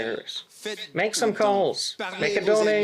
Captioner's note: speaking French